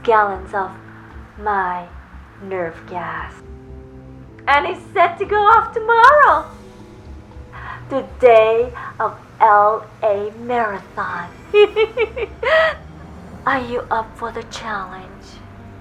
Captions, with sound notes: of my nerve gas, and it's set to go off tomorrow, the day of LA marathon. (laughing) Are you up for the challenge?